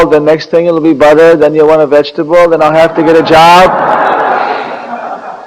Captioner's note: laughter